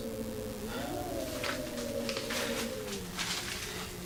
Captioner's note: wind howls violently